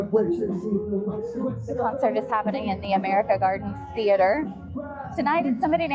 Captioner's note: chattering